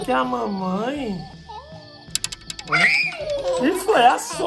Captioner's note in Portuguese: Gritos